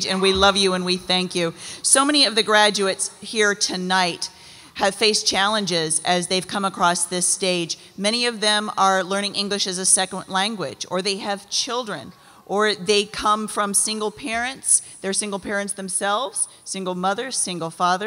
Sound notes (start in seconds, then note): none